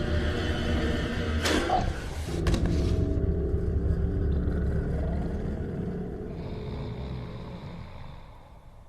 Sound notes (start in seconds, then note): 6.3 russare